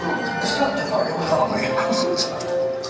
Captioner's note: giggles